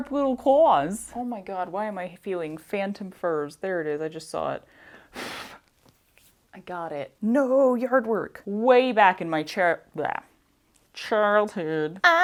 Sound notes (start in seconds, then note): 5.2 blowing